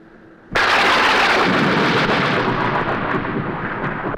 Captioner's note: thunder crashes